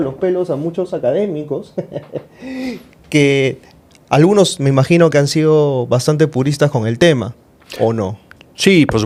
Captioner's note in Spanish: risas